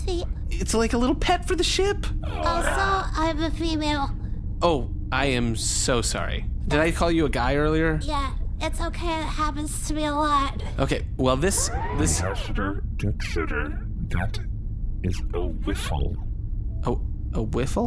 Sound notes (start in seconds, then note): 0.0 small, high-pitched voice, hesitantly; 12.5 whispering through clenched teeth